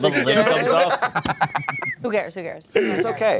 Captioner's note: laughs